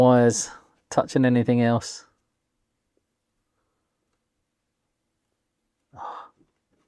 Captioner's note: silence